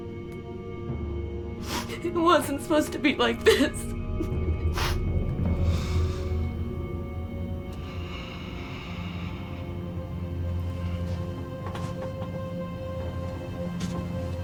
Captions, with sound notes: - It wasn't supposed to be like this. (Genevieve crying) (intense instrumental music)